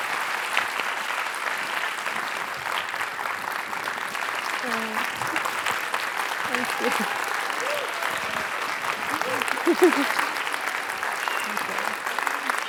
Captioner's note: applause